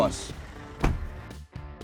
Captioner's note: door thuds